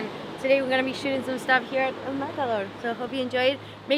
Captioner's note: speaking faintly